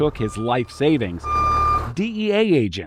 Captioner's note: truck beeping